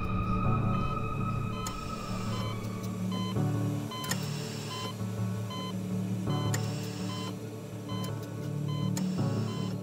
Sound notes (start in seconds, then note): 2.0 cardiac monitor beeping